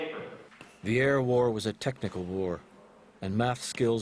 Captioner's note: voiceover